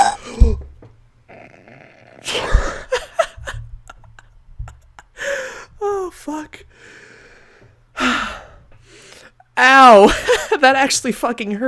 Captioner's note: gasps and initiates defense form; exhales